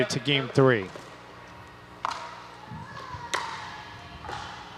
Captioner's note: ball bouncing